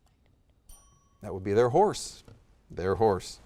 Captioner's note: bell dings